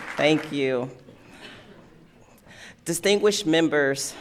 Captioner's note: applause